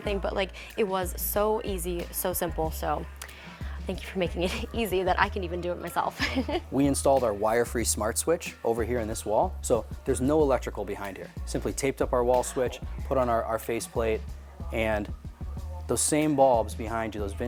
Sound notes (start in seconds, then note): 6.1 laughs